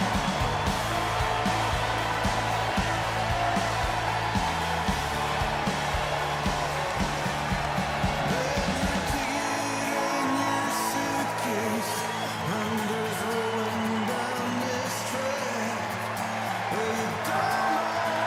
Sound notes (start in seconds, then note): 3.9 cheers and applause